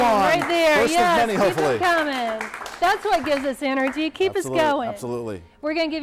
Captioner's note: applause